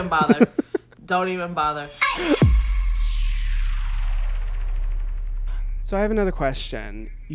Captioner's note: transition blasts